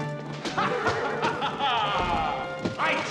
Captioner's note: laughs